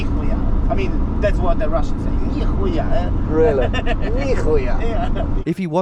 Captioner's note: laughing